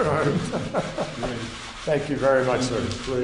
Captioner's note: laughter